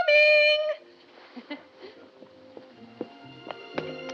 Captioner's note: chuckles